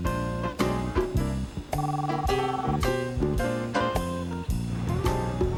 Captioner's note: ringing